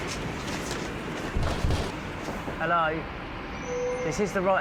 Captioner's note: deliveryman knocks on door